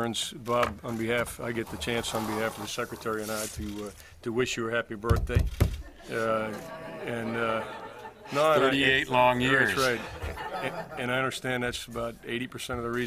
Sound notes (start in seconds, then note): 5.8 reporters laugh